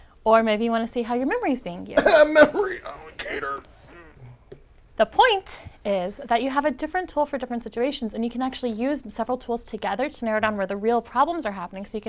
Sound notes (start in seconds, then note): 1.9 cough